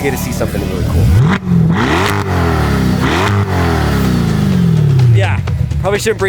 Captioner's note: car engine revving